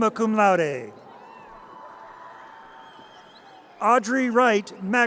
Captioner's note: audience cheers